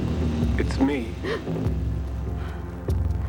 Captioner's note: gasp